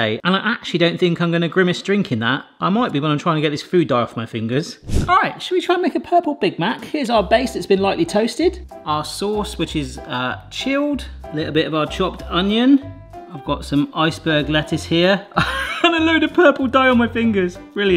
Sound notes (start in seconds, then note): 4.8 screen whooshing; 15.4 laughs